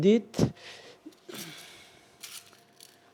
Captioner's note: gasp